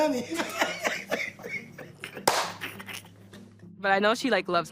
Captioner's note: laughing